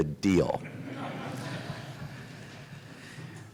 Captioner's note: laughter